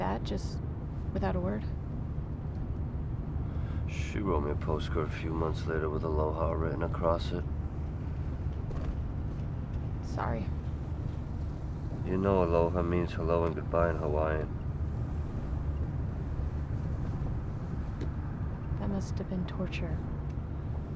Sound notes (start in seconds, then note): none